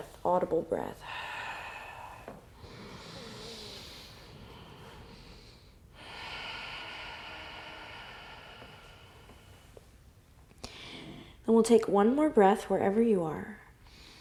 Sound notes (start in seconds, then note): 2.9 breathing deeply; 13.8 deep breath